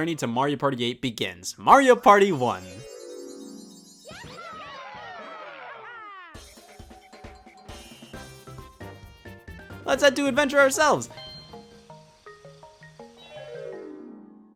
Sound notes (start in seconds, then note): 4.0 people cheering; 7.6 retro game music